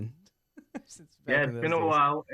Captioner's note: laughs